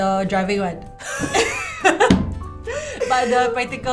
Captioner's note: laughs